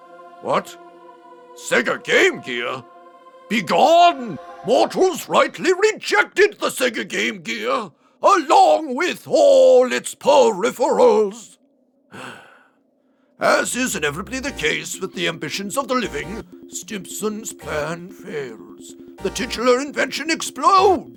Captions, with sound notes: What? Sega Game Gear? Begone! Mortals rightly rejected the Sega Game Gear, along with all its peripherals! [Sigh] As is inevitably the case with the ambitions of the living, Stimpson’s plan fails. The titular invention explodes,